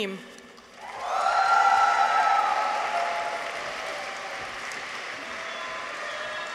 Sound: audience applauds; people cheer

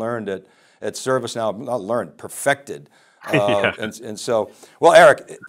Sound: laughs

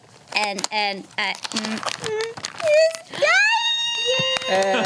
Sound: group cheers

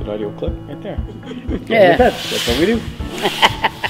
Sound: laughs

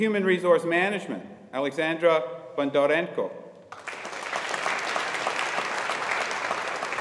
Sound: audience applauding

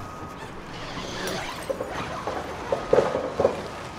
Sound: tent unzipping

